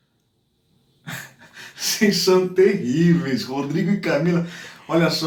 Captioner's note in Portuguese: risos